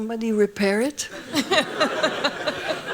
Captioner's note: laughing; laughs